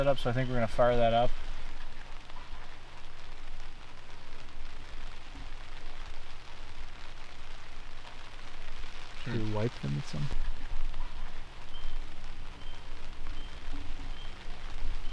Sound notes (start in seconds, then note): 2.2 rainfall pelting